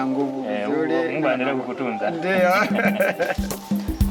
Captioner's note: laughter